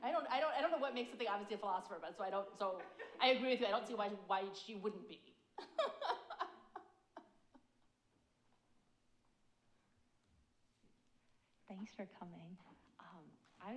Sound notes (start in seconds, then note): 5.6 laughs